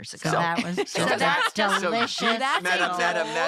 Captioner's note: laughter